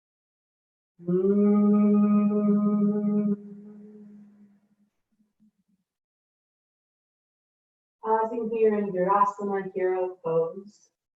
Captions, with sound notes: [humming] Pausing here in virasana, hero pose.